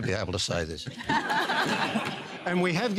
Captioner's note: laughter